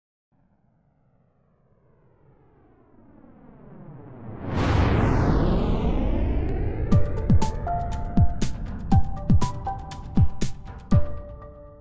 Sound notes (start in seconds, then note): 0.4 rocket engine roaring; 6.8 gentle music